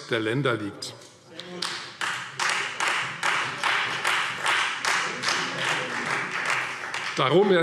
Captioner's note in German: Beifall Freie Demokraten